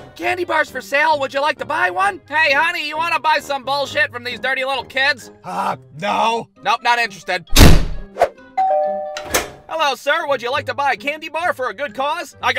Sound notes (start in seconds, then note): 5.4 harsh voice; 7.5 door slams; 8.6 door bell rings